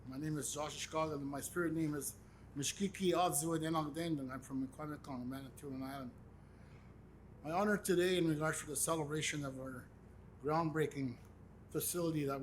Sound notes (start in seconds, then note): 2.4 speaks in Indigenous language